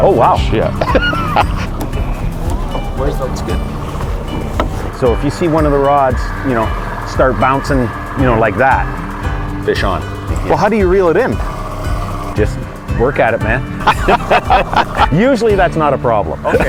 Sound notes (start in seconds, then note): 13.8 both laughing